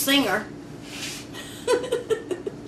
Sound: laughs

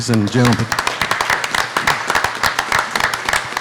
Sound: applauding

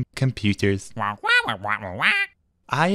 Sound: squawking defensively

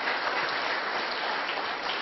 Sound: applause

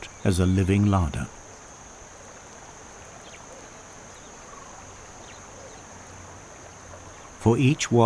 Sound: nature sounds

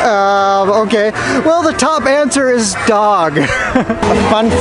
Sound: laughing

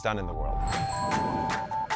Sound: bells chiming; upbeat music

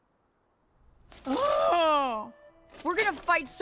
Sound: Maya exclaiming in dismay

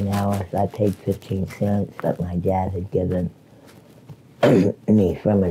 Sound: clears throat

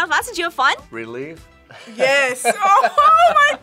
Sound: laughs

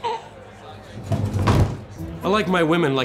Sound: body collapses

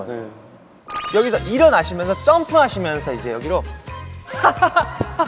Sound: boredom-chasing laughter

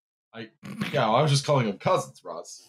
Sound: snorts

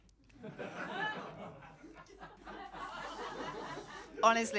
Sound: laughter

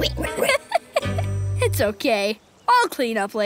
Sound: oinking

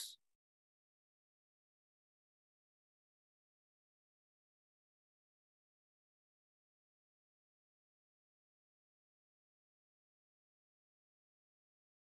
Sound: audio gap

